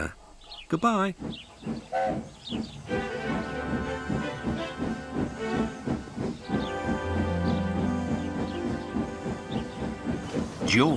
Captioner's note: Sir Handel whistles and chuffs away